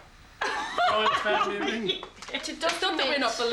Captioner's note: laughs